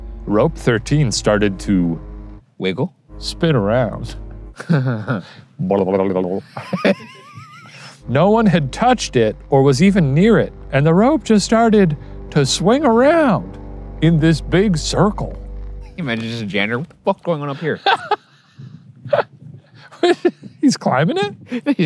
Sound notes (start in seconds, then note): 6.1 laughs; 17.4 laughing